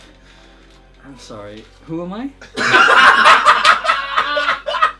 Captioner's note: laughs